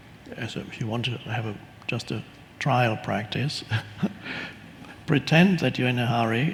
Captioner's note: laughs